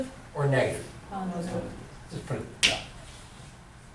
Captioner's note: voiceover